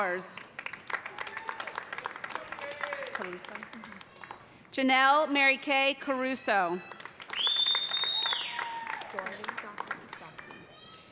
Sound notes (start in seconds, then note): 0.3 applause; 6.8 cheers and applause